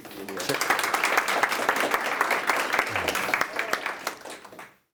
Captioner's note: audience clapping